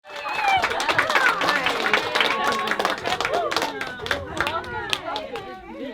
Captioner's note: applause